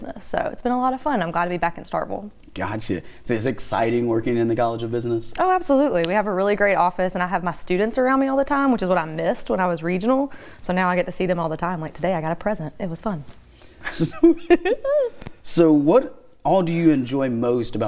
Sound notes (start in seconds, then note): 13.8 both laughing